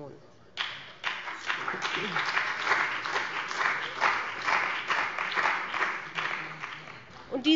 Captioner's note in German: Beifall bei dem BÜNDNIS 90/DIE GRÜNEN und der CDU